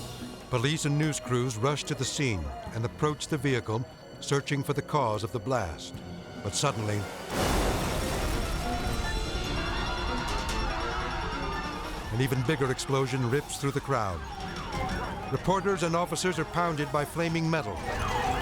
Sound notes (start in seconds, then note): 7.2 bomb explodes; 9.8 crowd screaming; 9.8 siren blaring